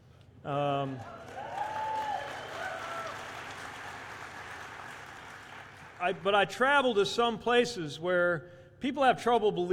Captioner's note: cheers